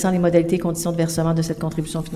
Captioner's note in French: voix de l'interprète